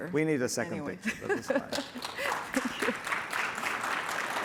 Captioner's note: applause